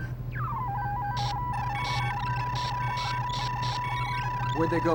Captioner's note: satellite beeping